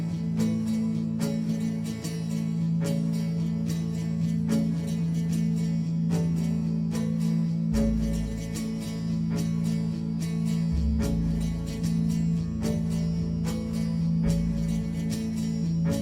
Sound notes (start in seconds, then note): none